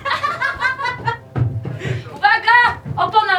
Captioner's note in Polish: śmiech